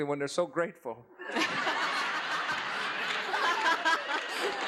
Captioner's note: laughs